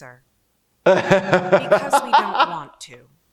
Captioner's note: laughs